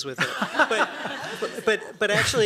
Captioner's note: laughter